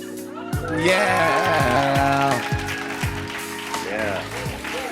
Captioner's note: cheers and applause